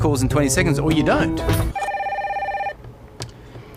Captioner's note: phone rings